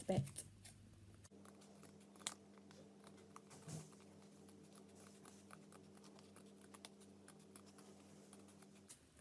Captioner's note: cutting sounds